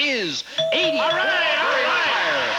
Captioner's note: audience applauding